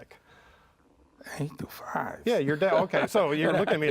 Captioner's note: chuckles